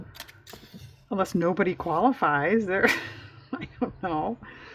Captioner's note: laughs